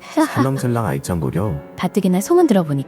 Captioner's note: laughs